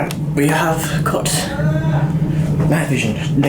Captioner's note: male scream noise